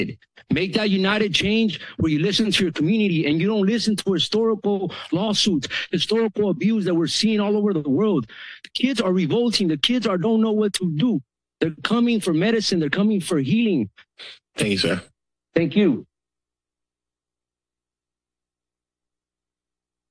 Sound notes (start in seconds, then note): 17.1 silence